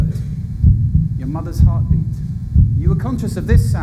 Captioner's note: heartbeat sound